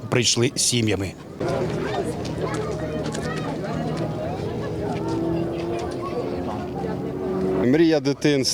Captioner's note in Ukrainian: шум натовпу